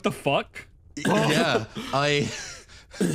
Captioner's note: surprised Noises